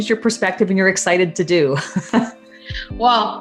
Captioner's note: laughs